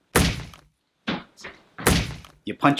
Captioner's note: punching Noise